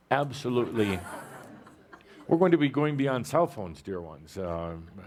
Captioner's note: laughter